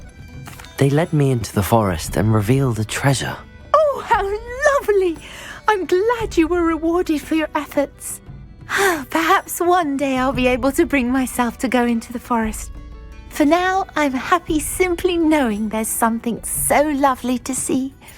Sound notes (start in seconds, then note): 8.7 sigh